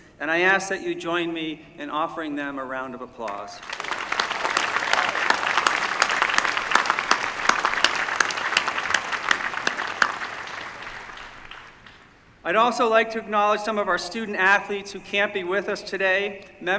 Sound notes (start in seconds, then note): 3.6 applause